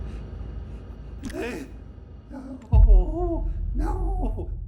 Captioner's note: Rudd whimpering